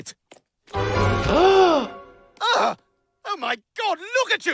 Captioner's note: doctor gasps